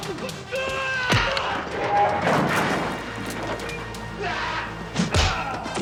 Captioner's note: furniture crashing